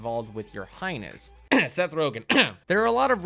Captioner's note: coughs